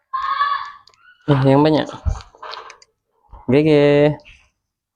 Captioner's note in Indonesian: berteriak